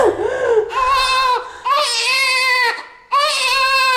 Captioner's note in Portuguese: choro de bebê